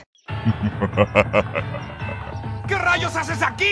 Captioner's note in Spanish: risas del Bowser de Hotel Mario